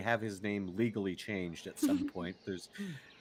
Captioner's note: Pegasi laughs